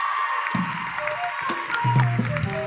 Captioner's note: applause